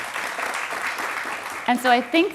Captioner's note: applause